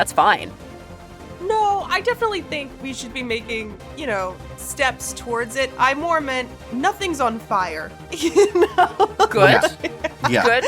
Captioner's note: chuckles